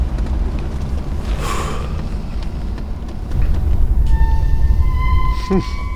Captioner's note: sighs; sighs